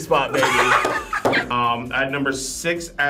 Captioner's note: group laughs